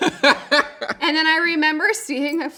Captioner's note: laughing